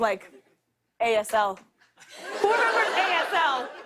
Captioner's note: laughter